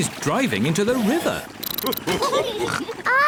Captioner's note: all laugh